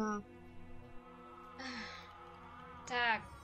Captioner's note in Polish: wzdycha